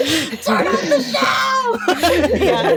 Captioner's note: more laughing